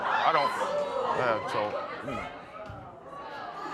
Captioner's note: audience murmurs